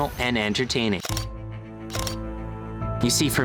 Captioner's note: camera shutter clicking